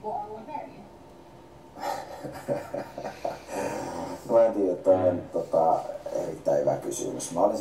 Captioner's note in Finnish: Nauraa